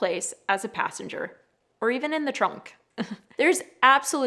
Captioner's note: chuckles